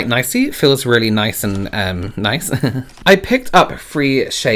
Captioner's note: laughs